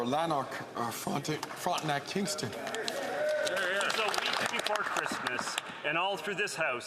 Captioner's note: some Applause